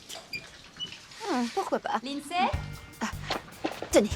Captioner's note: shower stops